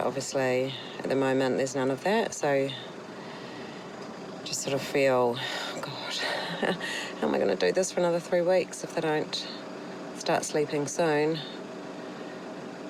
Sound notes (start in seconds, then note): 6.2 chuckles